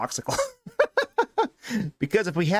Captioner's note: laughs